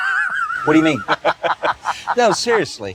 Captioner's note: laughs